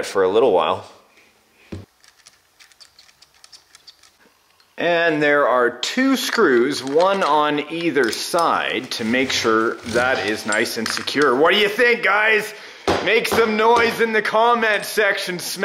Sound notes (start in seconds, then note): 2.0 screwdriver squeaking; 12.8 heavy banging